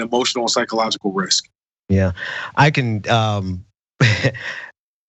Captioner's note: laugh